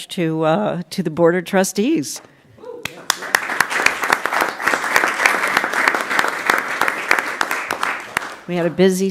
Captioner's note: applause